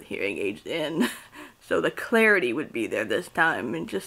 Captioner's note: chuckles